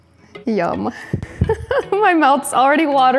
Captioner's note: laughs